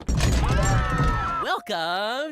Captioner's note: scream